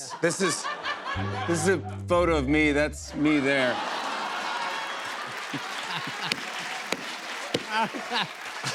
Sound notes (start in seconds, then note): 1.1 sad tuba; 3.2 laughter and applause